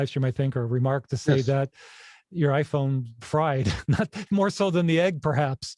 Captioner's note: laughs